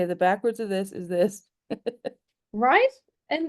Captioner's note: laughs